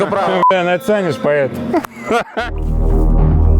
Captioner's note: sarcasm